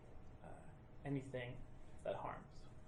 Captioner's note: none